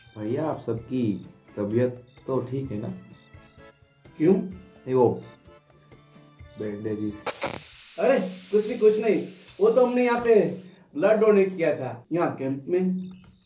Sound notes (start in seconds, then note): 7.2 FM Detunes to Static & Pressure Cooker Steaming